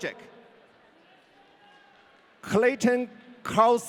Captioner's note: audience cheering